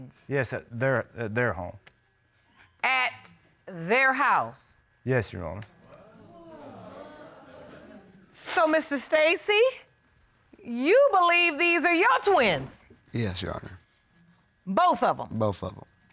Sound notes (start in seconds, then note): 5.8 audience exclaiming